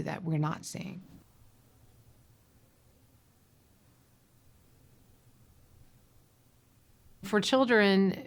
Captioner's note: silence